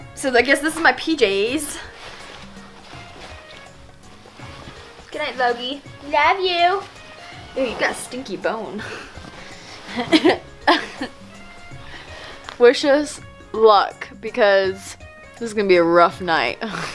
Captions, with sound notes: so I guess this is my PJ's. Goodnight Logy, love you. Ew, you got a stinky bone. (chuckles) Wish us luck, because this is gonna be a rough night.